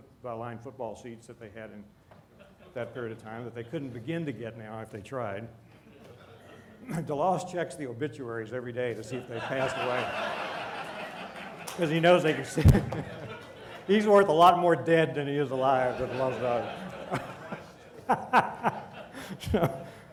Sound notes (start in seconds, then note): 9.0 laughter